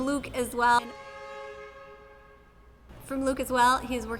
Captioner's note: car horn